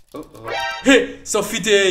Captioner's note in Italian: ricarica di pistola; suono di allerta di MGS